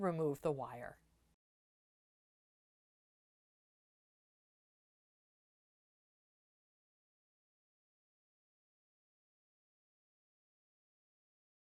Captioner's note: no Sound Present